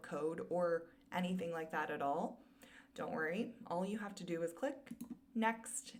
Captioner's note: click